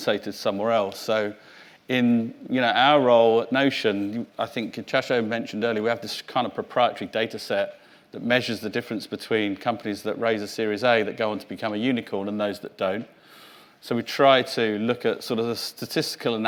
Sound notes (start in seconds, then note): 3.9 mutters